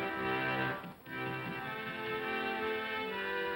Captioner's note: music plays outside; pounding on door